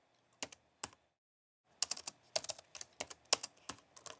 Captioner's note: typing on keyboard